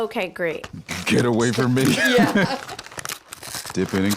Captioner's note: laughing